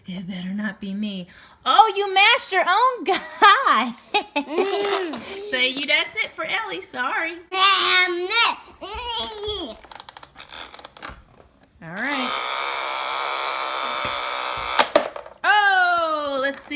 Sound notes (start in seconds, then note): 3.9 laughs